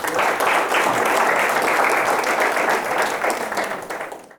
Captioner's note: crowd applaus